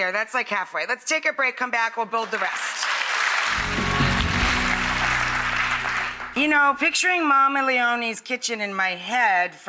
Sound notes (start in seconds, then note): 2.2 audience applauds